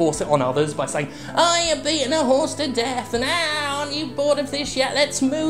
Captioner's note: mocking